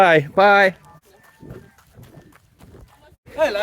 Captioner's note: travel noises